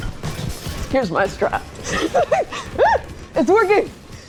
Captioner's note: laughs